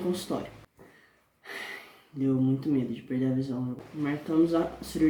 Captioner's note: sigh